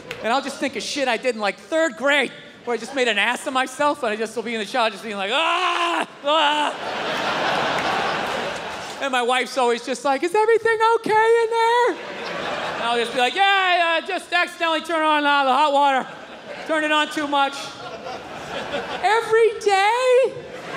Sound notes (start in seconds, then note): 5.6 crowd laughs; 5.7 screams; 19.1 imitating wife's voice